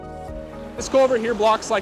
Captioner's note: water gurgling